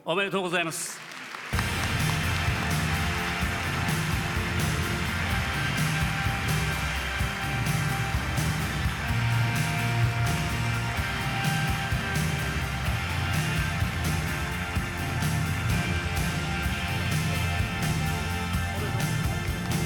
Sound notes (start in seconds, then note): 1.6 applause